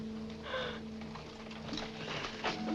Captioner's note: gasp